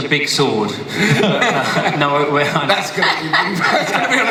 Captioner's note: panel laughs